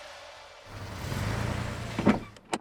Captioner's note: engine revving; car door slams